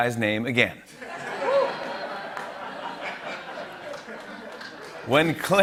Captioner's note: laughter